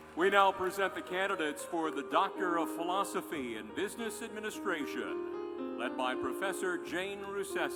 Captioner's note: cheers and applause